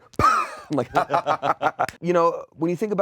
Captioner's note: laughs